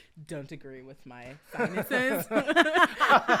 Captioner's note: all laughing